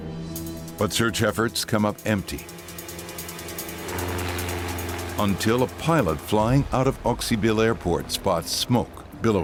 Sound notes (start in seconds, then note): 3.6 airplane engine roaring; 3.6 sinister music